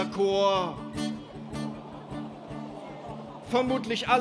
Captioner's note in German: Lachen